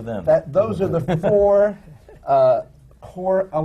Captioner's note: laughs